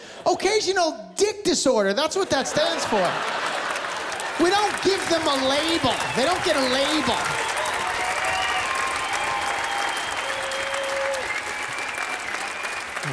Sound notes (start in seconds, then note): 3.1 laughter, applause; 8.0 laughter, applause